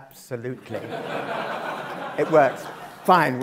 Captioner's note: laugh